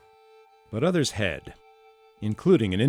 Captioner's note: voiceover